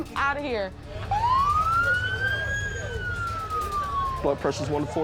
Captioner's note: sirens